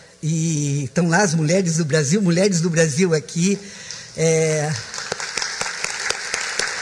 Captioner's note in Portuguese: applause